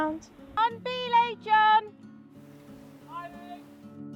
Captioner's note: shouting